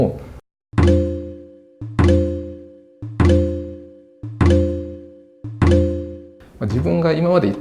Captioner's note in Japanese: wifiの電波に反応して音が鳴る様子